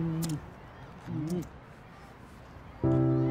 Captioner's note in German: Kussgeräusche